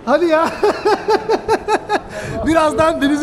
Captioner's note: fearful laugh